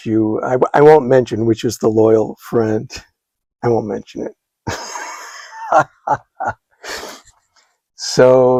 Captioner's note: laughs